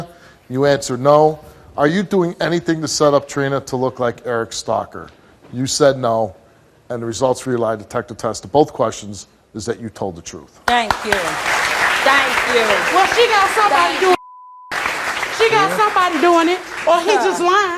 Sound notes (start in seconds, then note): 10.8 audience applauds